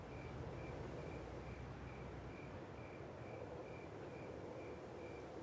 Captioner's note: crickets chirping and wind blowing